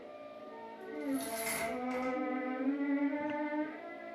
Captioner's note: chains rattling